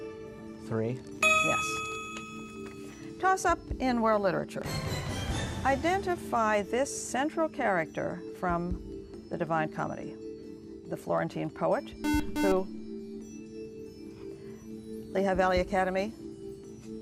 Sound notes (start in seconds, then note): 12.0 buzzer